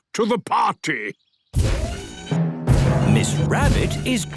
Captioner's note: thudding, mechanical whirring